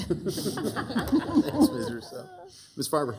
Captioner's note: city council members laughing